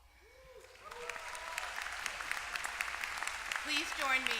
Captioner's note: applause